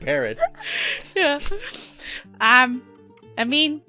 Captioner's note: laughing